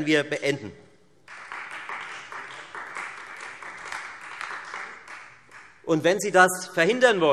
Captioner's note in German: Beifall Freie Demokraten und vereinzelt AfD